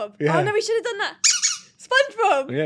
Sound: toy squeaks

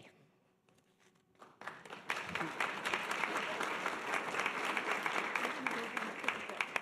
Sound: audience applause

